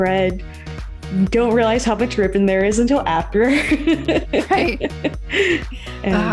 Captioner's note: laughs